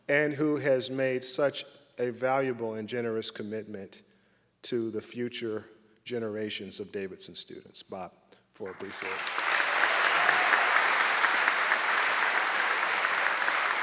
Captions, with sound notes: and who has made such a valuable and generous commitment to the future generations of Davidson students. Bob, for- (audience clapping)